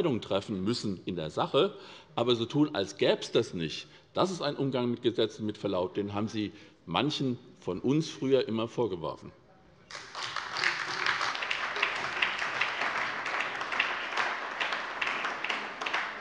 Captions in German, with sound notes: treffen müssen - aber so zu tun, als gäbe es dieses Gesetz nicht, das ist ein Umgang mit Gesetzen, den Sie, mit Verlaub, manchen von uns früher immer vorgeworfen haben. (Beifall bei der SPD und bei Abgeordneten der CDU)